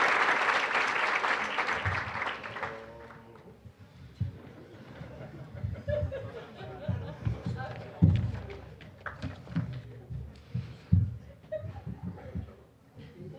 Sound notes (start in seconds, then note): 0.0 applause; 6.4 general chatter; 6.4 scattered laughing